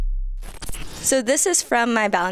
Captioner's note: object clicks; transition swooshing